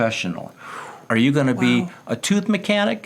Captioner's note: exhales